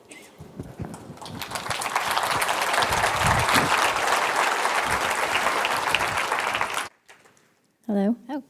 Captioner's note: applause